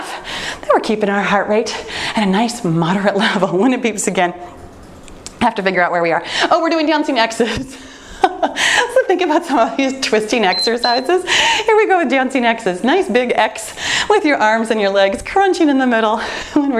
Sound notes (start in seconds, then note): 8.1 laughs; 10.4 timer beeps